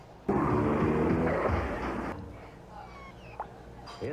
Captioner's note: cartoon crash